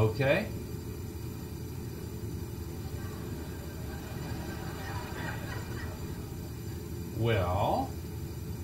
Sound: laugh

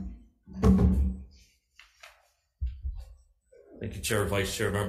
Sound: microphone thudding

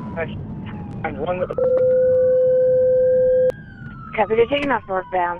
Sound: beep

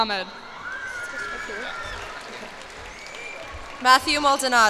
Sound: cheers and applause

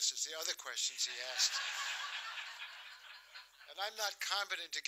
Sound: laughter

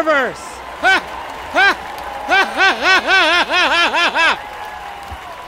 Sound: laughter

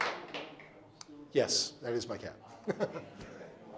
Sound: laughing

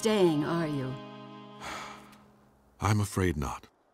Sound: sighing

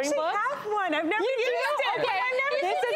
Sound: chattering together

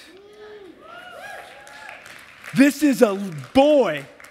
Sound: applause

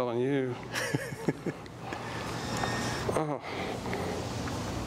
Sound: inventor laughing

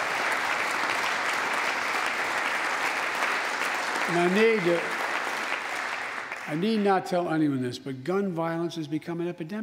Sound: applause

